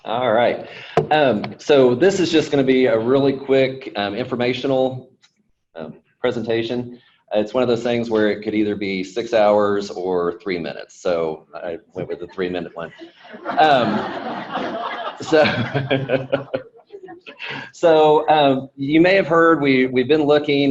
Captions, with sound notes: - All right, so this is just gonna be a really quick informational presentation. It's one of those things where it could either be six hours or three minutes, so I went with the three-minute one. (audience laughing) (laughs) So, you may have heard we've been looking